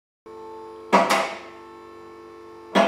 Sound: car lifter clicks

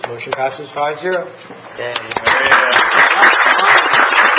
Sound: applause

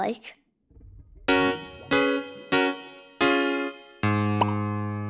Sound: keyboard sounds

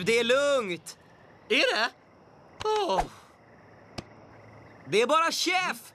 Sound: sighs

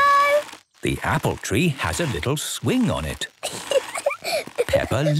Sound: giggling

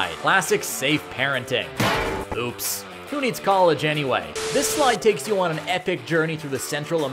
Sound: thunk

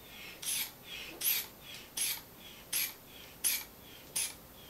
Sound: squeeze bulb pumping air

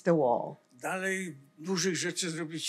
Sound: foreign language

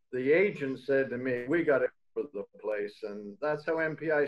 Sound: video static drowns out speaker

